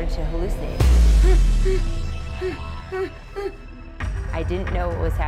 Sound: grunting and gasping

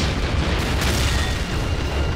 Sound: explosion

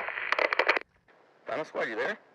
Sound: static sound

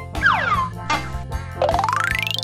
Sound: door whistles; juice whistles; audio boings

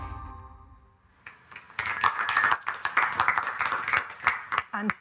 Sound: applause

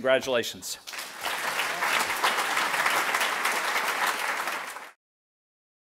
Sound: applause

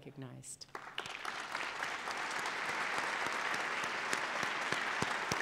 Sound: applause

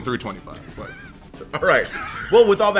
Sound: laugh

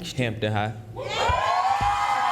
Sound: cheering and applause

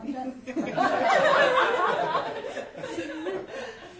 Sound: laughter

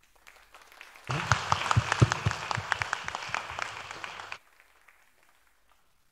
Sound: applause

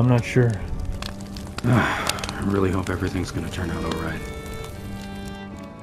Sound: sigh

